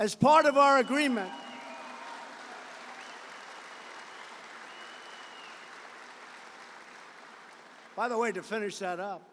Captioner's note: applause